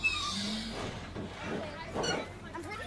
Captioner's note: doors open